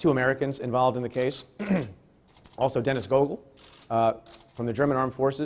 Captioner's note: clears throat